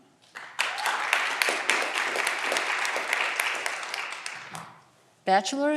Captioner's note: audience clapping and cheering